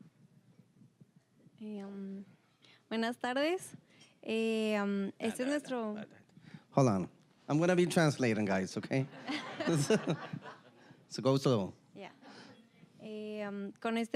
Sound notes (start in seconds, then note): 3.0 speaking Spanish; 9.1 audience laughing